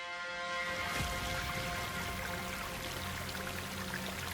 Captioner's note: water fizzles